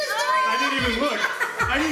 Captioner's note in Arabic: يضحك